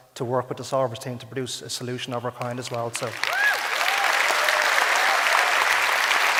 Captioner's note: audience applause